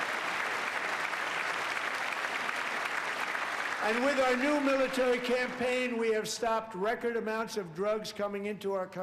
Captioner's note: applause